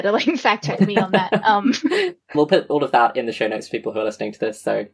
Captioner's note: laughs